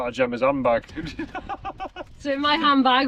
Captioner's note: laughter